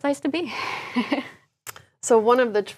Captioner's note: laugh